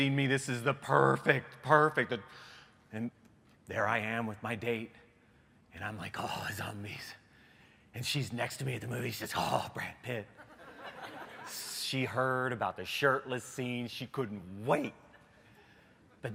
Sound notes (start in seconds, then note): 10.3 laughter